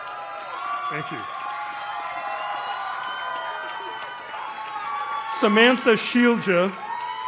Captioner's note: cheers and applause